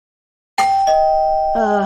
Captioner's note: doorbell